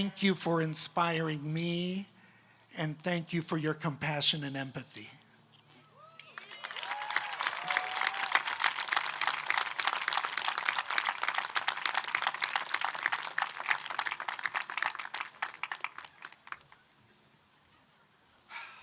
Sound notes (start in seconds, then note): 8.3 applause